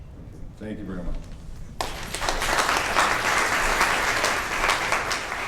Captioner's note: audience applauds